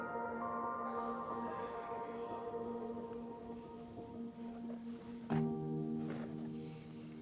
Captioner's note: gentle music; crickets chirping